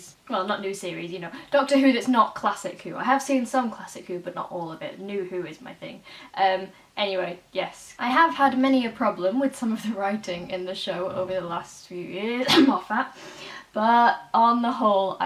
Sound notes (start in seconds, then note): 12.4 cough